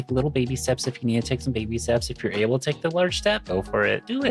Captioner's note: none